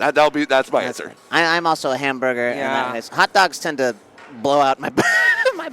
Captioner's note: laughter